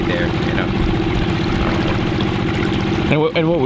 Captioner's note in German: Motor brummt laut, während Wasser stetig fließt